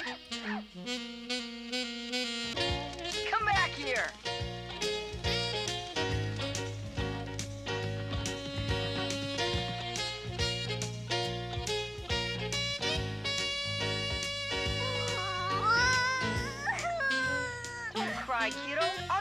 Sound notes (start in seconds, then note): 14.8 sobbing